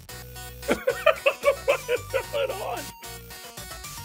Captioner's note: laughs